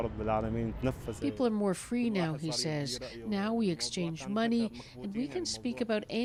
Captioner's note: speaking alternate language